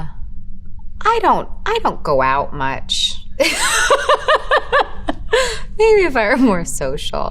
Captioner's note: laughing